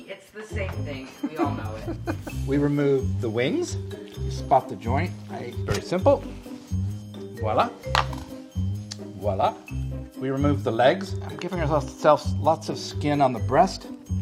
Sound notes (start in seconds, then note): 1.2 laughing; 7.0 buoyant music